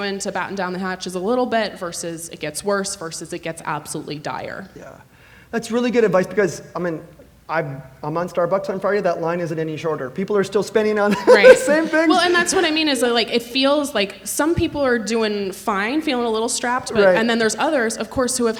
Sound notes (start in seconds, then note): 11.0 laughs